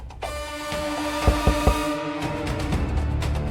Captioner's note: knocking at the door; suspense music playing